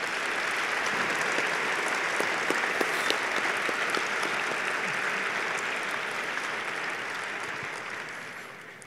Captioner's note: applause